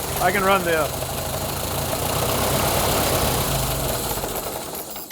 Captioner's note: engine idles